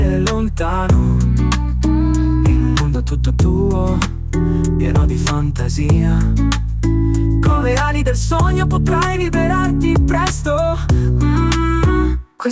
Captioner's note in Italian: mmm